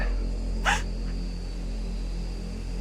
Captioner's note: crying